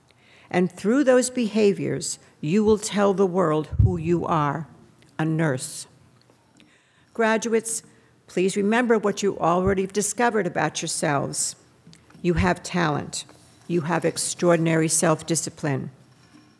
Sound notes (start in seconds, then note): none